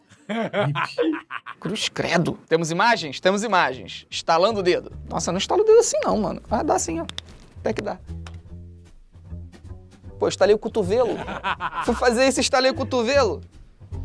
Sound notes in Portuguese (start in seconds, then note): 0.2 risadas; 7.0 dedos estalando; 11.0 risadas